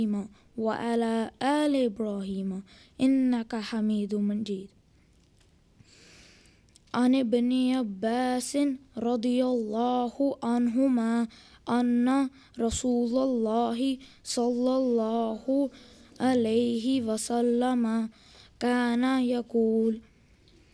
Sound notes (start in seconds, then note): 6.4 Arabic